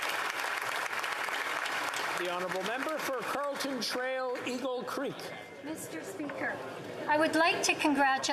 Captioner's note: applause